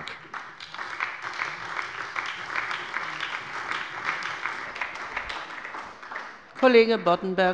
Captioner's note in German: Beifall bei der SPD